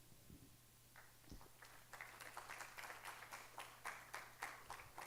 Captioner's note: audience applauding